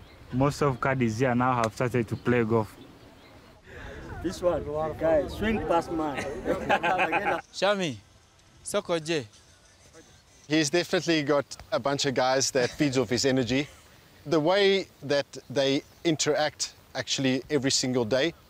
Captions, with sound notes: Most of caddies here now have started to play golf. This one-- swing fast man. [laughter] Shamy, come over here, He's definitely got a bunch of guys that feeds off his energy. The way that they interact actually every single day,